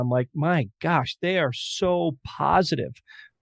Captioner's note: none